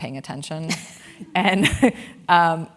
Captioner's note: laugh